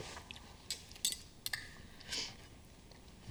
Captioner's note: cutlery clanking